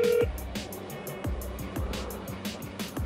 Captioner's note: phone ringing